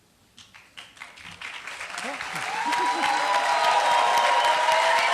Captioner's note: applause